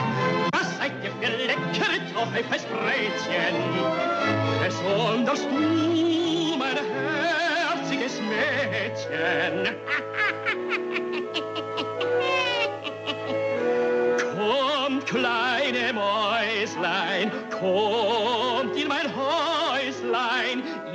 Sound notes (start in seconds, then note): 9.2 the Witch Laughs